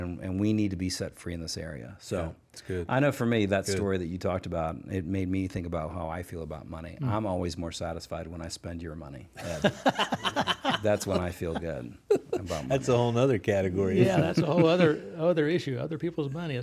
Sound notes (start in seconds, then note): 9.4 both laugh